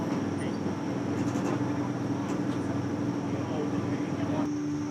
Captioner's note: people chattering